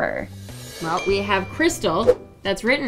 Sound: text tone

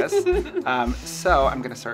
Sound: laughing

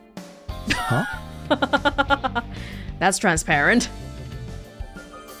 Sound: chuckles

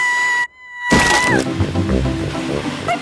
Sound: screaming

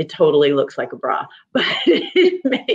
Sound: laughing

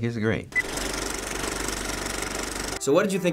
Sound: movie reel clicks

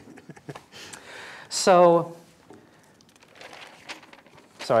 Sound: laughter; turning pages

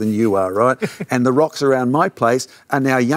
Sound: laughs

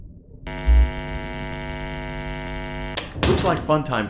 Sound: light turns on

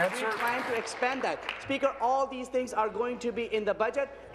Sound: applause

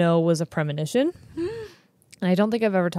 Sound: gasps

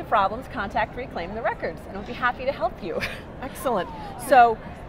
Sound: laughing

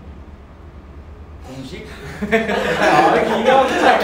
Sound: laughter

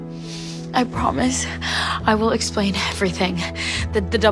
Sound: none

